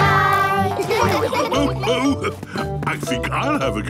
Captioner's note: laughs